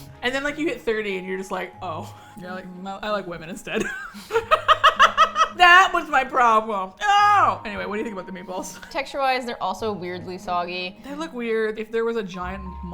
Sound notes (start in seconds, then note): 3.8 both laugh